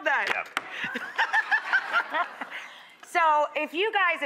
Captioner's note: laughing